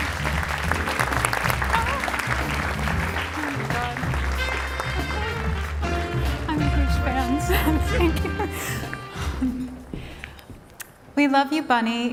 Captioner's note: cheering and Applause